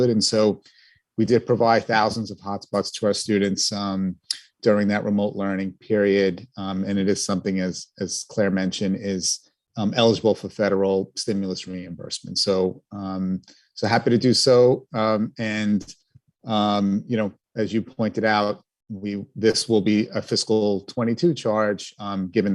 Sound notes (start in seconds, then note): none